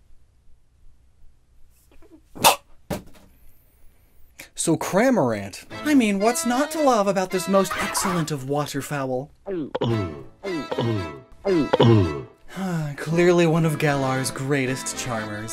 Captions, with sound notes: [Gulping noises] [Horking noise] … So, Cramorant! I mean, what’s not to love about this most excellent of waterfowl? [Horking noise, repeated 3x] Clearly one of Galar’s greatest charmers…